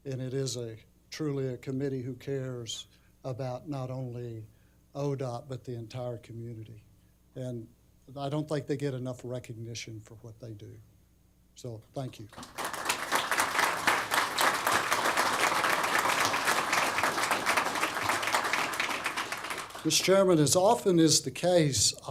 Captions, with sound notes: And it is truly a committee who cares about not only ODOT, but the entire community. And I don't think they get enough recognition for what they do. So thank you. [APPLAUSE] Mr. Chairman, as often is the case,